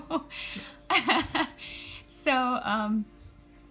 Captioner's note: laughter